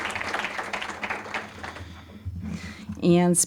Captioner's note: applause